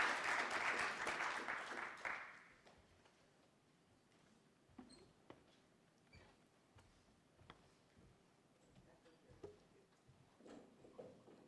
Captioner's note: applause